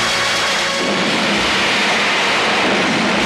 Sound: explosion

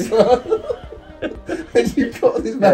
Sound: both laughing

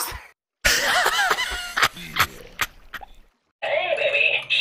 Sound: wheeze-laughing

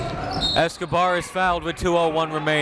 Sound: whistle

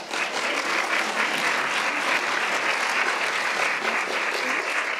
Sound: applauds

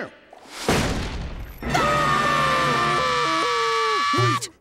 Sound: screaming

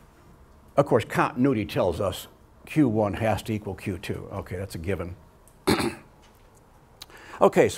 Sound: clears throat

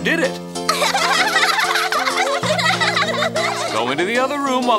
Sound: giggles

